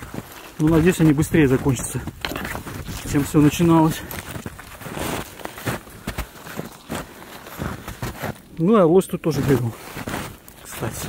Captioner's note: snow crunching